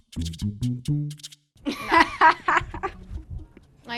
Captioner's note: laugh